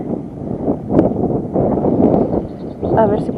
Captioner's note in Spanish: viento